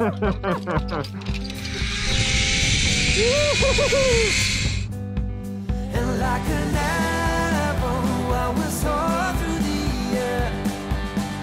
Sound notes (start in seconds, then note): 0.0 laugh; 1.0 wire zipping